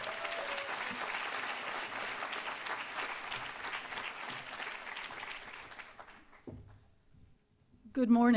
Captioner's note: applause